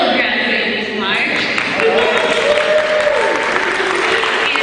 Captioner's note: cheering